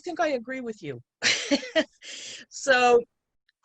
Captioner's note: laughs